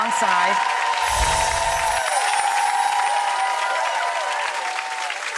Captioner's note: audience applauding